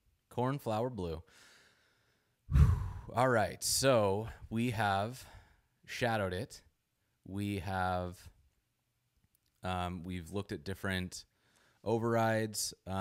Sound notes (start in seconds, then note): 2.4 exhales